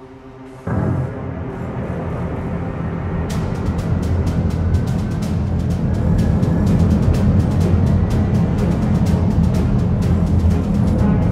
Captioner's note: rocket engines firing